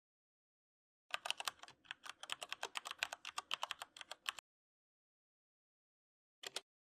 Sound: keyboard typing

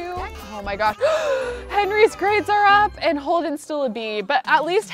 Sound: gasps

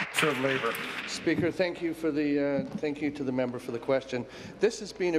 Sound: applause

